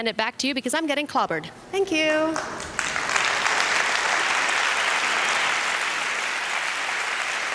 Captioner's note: applause